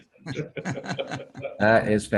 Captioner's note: laugh